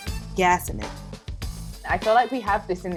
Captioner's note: voiceover